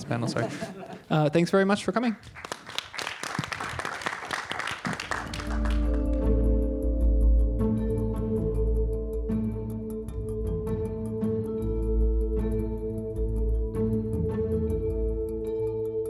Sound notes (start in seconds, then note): 0.0 laughter; 2.2 applause